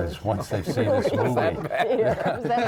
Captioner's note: laughing